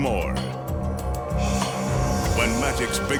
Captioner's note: light beam swishing